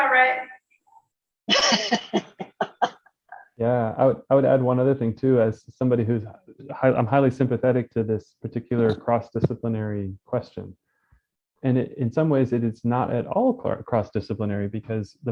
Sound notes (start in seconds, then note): 1.5 laughing